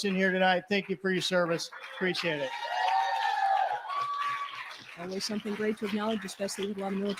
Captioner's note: cheering